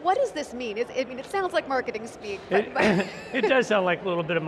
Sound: laughs

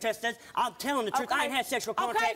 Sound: none

